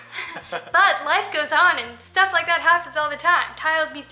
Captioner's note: laughter